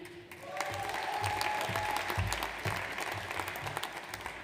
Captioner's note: audience applauds